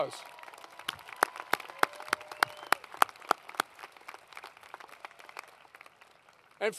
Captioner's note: applause